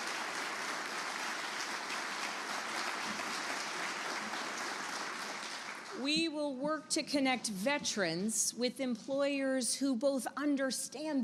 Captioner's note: applause